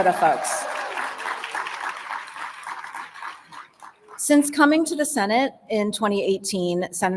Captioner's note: applause